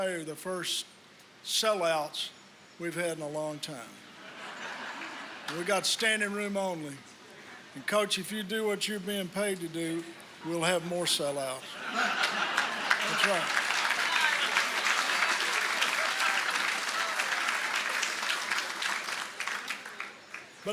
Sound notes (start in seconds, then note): 4.2 laughter; 18.2 applause